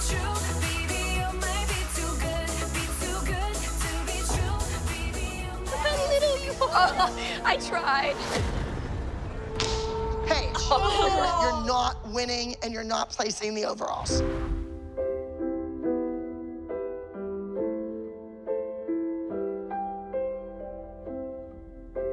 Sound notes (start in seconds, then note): 5.6 laughing; 8.2 dramatic music; 14.5 gentle music